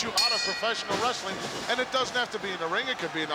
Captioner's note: bell rings